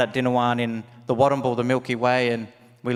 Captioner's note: speaks native language